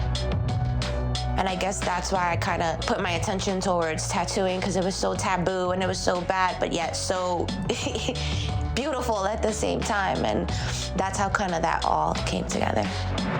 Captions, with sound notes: (somber music) And I guess that's why I kind of put my attention towards tattooing because it was so taboo and it was so bad, but yet so (laughs) beautiful at the same time. And that's how kind of that all came together.